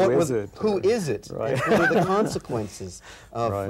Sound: laughs

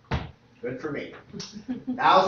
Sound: laughter

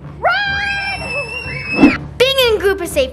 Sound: everyone screaming

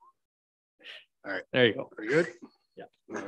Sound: indistinct chattering

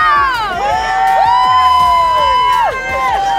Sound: people cheer

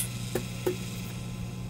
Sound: tap tap

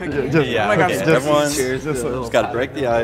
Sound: group agreeing

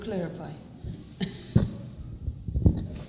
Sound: laughter

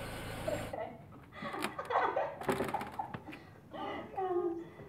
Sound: girls laughing

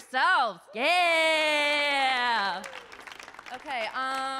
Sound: audience claps

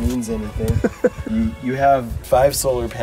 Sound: chuckling

